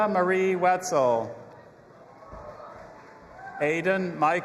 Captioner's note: audience applauding and cheering